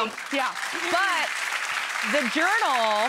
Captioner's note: audience applauds